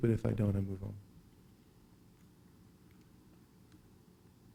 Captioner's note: silence